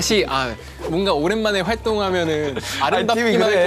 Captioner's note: haha